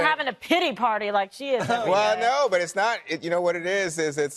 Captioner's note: laughing